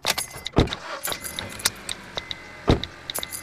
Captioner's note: engine starts